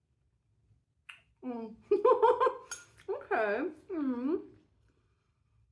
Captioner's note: laughing